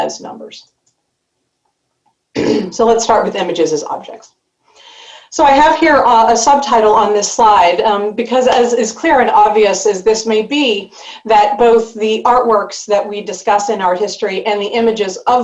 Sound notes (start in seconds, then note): 2.3 clears throat